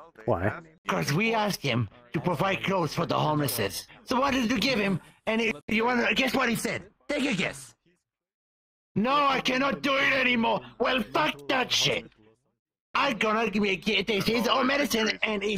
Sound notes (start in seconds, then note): none